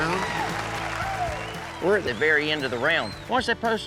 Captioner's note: cheering, applause